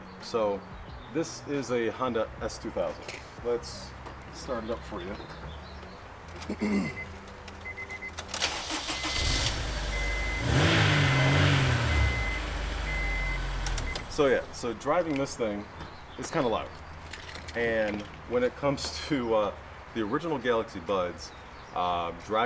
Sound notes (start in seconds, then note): 7.2 vehicle beeping; 8.0 engine roaring